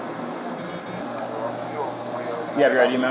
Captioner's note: radio chatter